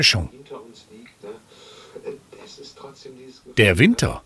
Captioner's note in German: Leise Radionachrichten im Hintergrund